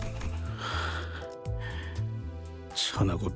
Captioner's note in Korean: 한숨